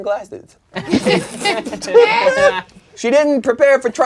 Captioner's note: crowd laughing